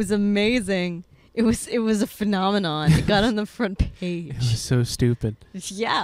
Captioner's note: laughing